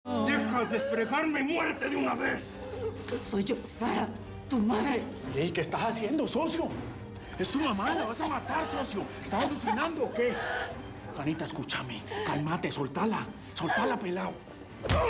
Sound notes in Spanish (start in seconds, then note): 8.4 ella tose; 10.7 sonidos de ahogo de sara; 14.8 puńetazo